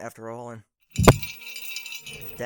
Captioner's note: bells ring again